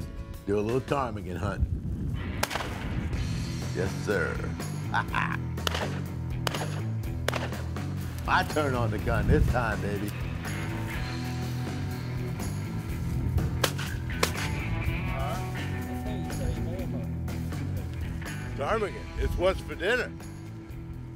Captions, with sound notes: AND DO A LITTLE PTARMIGAN HUNTING. [GUNSHOT] YES SIR, HAHA! [GUNSHOTS] MY TURN ON THE GUN THIS TIME, BABY. [GUNSHOTS] PTARMIGAN, IT'S WHAT'S FOR DINNER!